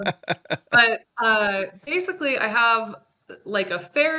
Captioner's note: laughing